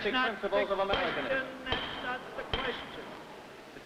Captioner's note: gavel banging